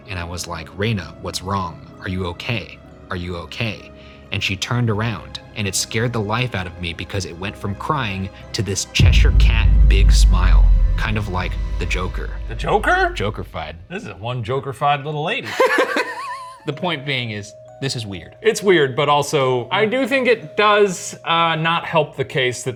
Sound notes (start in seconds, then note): 15.5 laughs